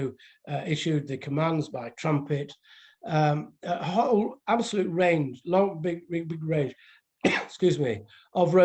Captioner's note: coughs